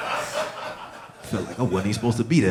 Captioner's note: audience laughing